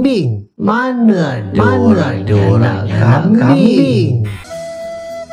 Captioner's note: echoes